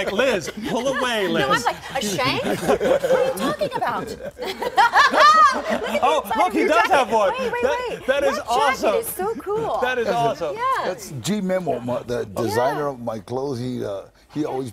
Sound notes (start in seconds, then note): 0.0 laughter